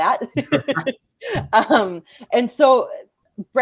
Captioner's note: both laugh